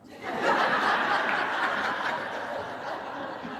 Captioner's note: laughter